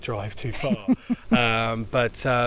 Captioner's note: laughing